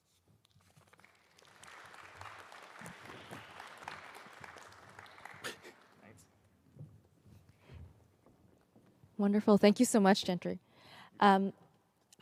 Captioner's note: applause